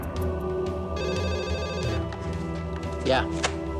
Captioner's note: phone ringing